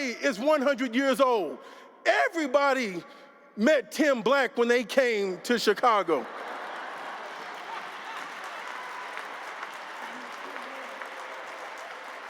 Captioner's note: laughter